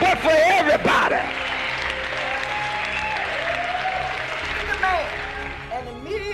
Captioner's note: crowd cheering